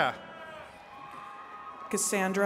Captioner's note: attendees cheering